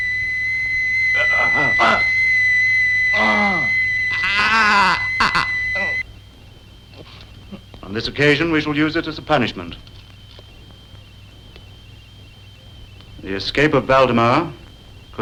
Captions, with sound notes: (groaning) On this occasion, we shall use it as a punishment. The escape of Waldemar